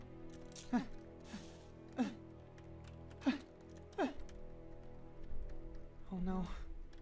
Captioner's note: more Panic Noises